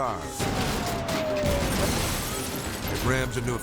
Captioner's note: cars crashing